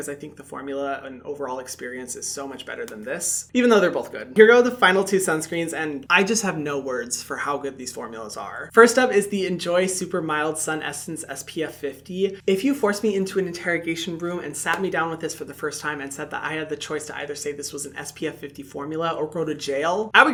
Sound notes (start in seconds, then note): 14.6 hands tapping